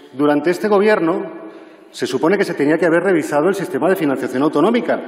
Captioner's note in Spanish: none